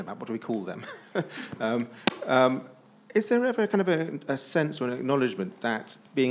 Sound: chuckles

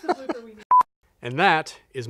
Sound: laughing; signal beep

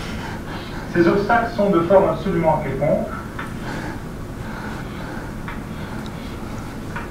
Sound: speaking French in the background video

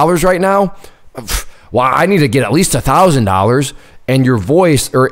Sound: scoffs

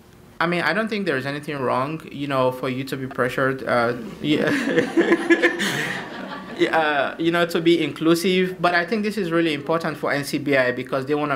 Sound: laughter

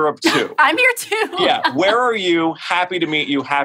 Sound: laughs

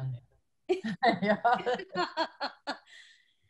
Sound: laughter

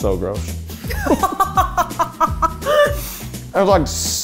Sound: laughing

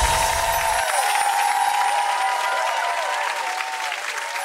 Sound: crowd cheering

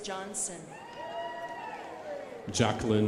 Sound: crowd applauding

